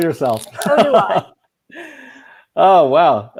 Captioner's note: laughing